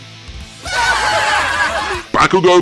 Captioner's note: laughing